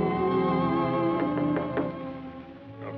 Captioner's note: knocking